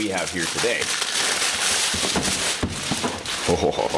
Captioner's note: plastic crackling